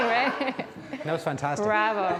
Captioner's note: laughing